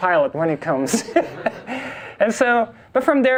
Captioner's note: class and instructor laugh